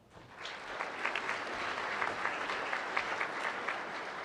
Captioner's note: applause